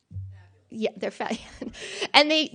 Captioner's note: faint voice